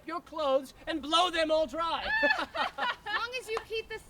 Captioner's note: Gentlewoman laughs